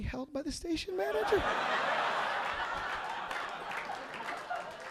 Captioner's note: audience laughing